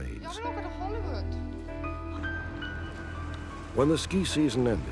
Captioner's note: speaking swedish